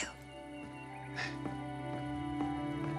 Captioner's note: birds singing; music swells